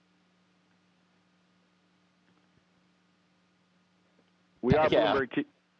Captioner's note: no audio